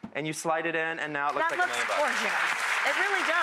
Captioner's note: applauding